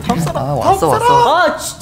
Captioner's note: frustrated